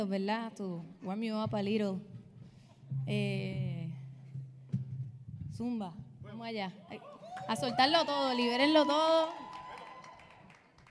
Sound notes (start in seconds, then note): 5.6 speaking in Spanish; 7.0 audience cheering